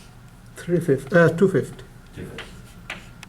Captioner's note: voiceover